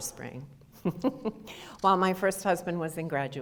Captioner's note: audience laughter